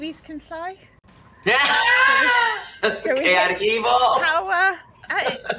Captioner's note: laughs